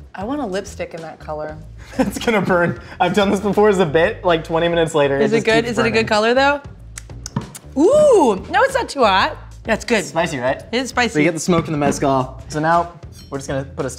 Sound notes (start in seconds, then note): 6.9 lips smacking